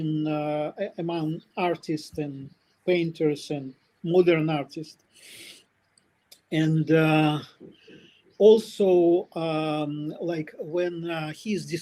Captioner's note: смъркане